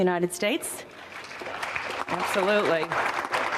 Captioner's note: audience applauding